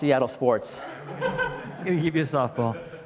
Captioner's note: audience laughs